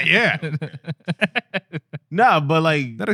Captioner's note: laughing